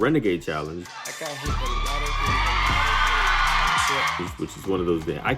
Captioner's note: audience cheers